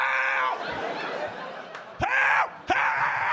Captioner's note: audience laughing